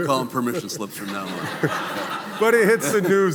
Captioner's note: audience laughing